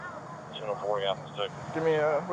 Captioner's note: radio chatter